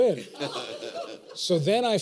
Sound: laughter

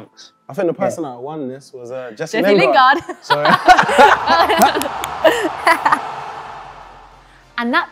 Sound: cheering noise

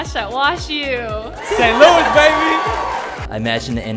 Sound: attendees cheering

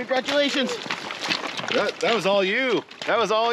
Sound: fish thrashing

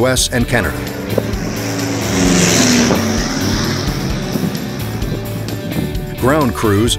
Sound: airplane engines

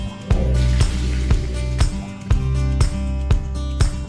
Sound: running water

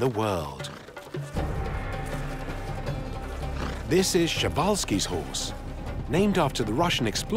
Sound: fly buzzing

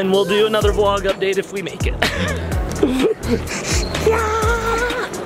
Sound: laughs

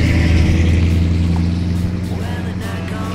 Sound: engine revs

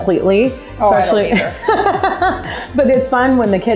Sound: laughing

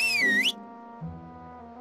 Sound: whistles

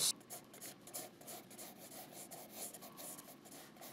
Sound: scratching

